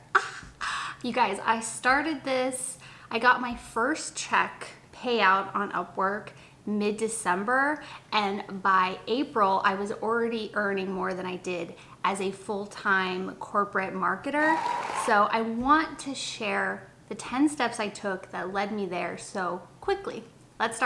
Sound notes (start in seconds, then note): 14.6 audience applauds